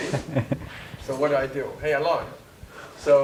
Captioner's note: laugh